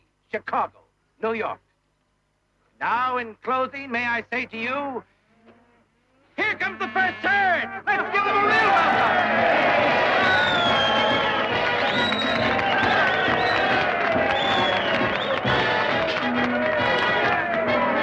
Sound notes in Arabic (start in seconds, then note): 8.9 هتاف الجمهور يغرق الكلام; 10.7 موسيقى مبهجة